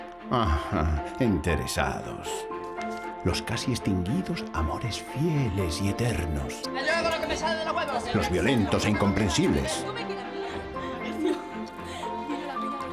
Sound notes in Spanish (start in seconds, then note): 6.6 discutiendo; 11.0 riendo